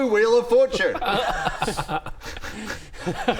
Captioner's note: laughs